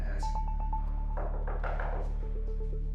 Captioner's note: knocking